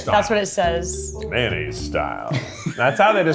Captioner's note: laughing